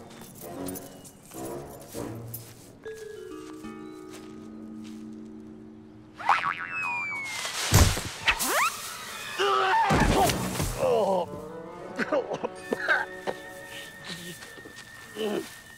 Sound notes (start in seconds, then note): 7.2 rope springs; 9.3 Corbin screams